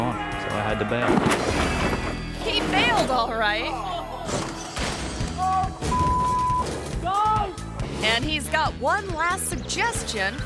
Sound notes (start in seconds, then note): 1.0 ATV thuds; 4.3 ATV crunches